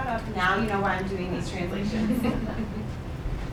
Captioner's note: laughing